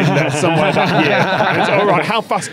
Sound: laughs snidely

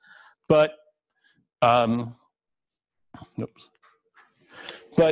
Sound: pause

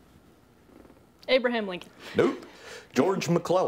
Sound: laughs

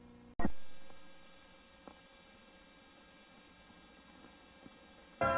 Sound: VHS static; swirling sounds resuming

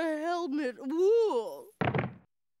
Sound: groans

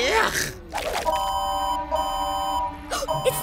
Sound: beeping; gasps

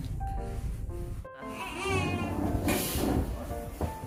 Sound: crying baby

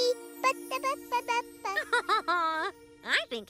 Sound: babbling; laughing

